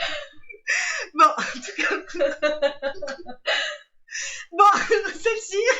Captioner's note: laughs